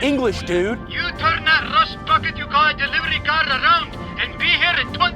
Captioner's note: radio